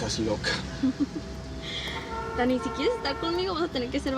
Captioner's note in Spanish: Ella ríe